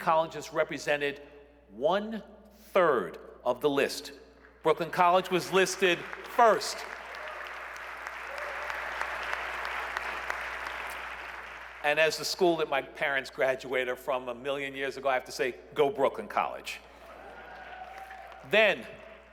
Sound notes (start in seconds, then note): 8.0 applause